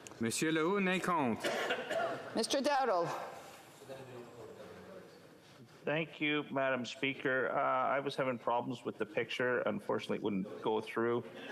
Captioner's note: speaking French